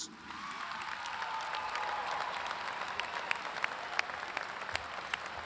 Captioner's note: audience cheers and claps